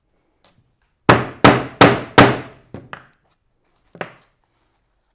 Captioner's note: mallet thudding